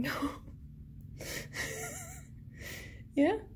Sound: wheezing

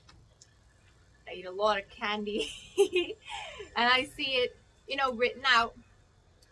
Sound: laughs

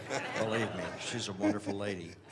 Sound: laughter

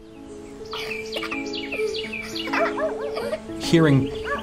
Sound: giggling

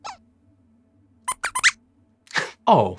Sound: squeaks squeaks

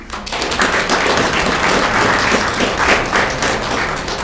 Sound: audience clapping

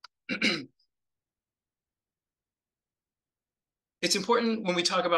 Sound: throat clears

